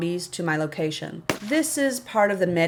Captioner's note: bang